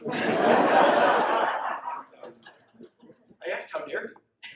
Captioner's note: audience laughs